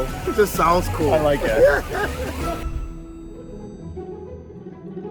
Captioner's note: laughing